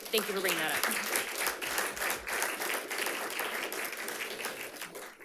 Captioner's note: audience applauds